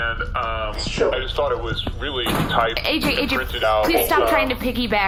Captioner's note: thumping as AJ tries to climb C-53